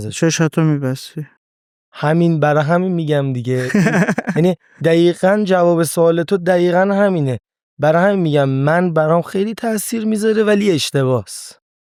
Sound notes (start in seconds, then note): 3.5 laughs